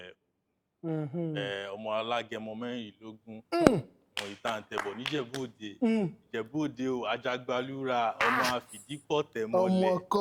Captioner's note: reciting family-praise poetry